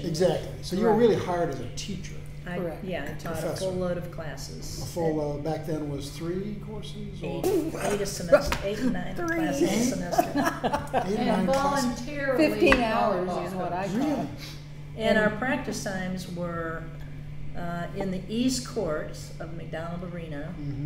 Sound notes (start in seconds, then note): 7.3 laughter